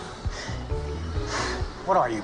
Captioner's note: both panting